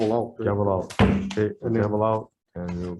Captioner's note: gavel bangs